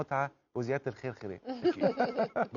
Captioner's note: laughs!